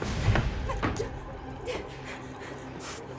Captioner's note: Sadie whimpering; eerie music; spray hissing